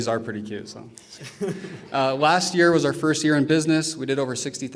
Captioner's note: laughter